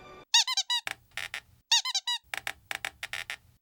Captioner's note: squeaking